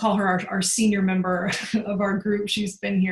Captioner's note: laugh